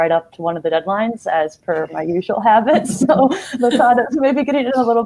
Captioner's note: laughing